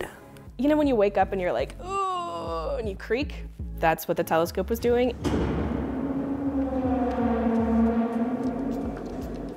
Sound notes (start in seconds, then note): 5.0 telescope creaking